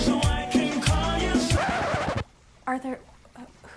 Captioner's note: record scratches